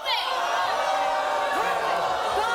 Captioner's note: audience booing